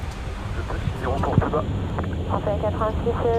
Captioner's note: radio chatter